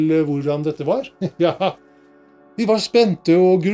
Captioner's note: Santa laughs